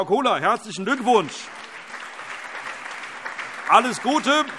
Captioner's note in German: Allgemeiner Beifall